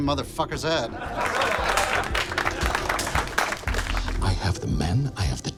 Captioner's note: all clapping